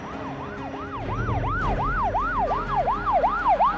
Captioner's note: siren blaring